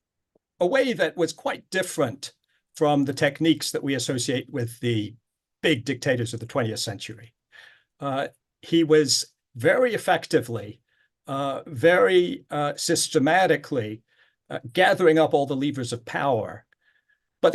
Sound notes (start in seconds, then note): none